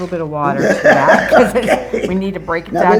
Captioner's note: laughing